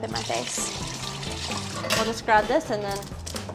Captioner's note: pouring